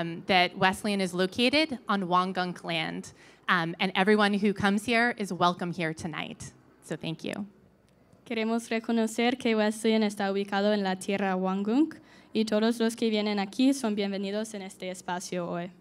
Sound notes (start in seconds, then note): 8.3 speaking in Spanish